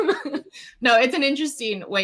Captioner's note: laughs